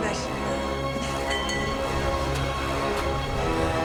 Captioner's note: pipe clangs